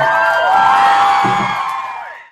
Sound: crowd cheering

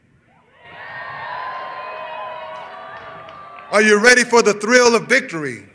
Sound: cheers and applause

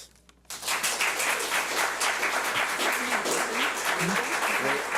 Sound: audience applauds

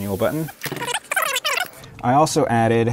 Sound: tape fast-forwarding

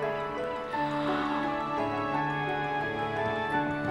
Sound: gasps

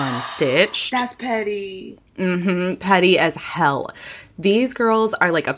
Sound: gasps

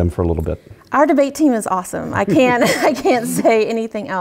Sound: laugh

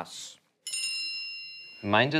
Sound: bell noise

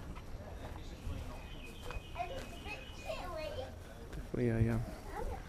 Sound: children laughing and talking; birds tweeting

